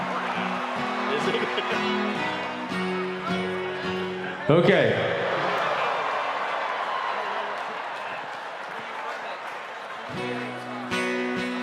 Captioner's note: cheers and applause